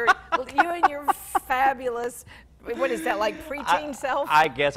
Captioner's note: laughs